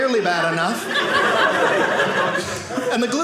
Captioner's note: audience laughing